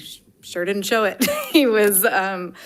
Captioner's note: laughing